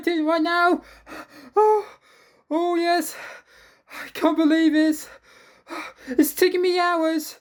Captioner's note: gasping; gasping